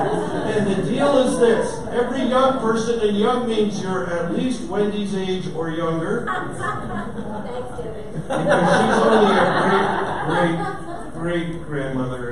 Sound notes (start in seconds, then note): 0.0 audience laughter; 6.2 audience laughter